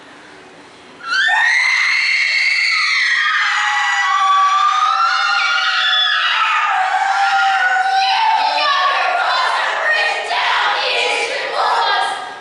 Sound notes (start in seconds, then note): 1.0 CHORUS scream with rage